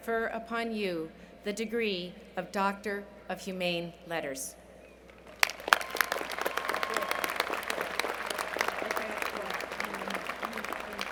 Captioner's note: cheers and Applause